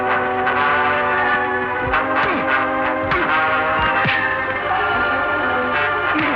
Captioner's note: grunting, blows struck